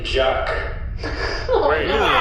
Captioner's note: laughter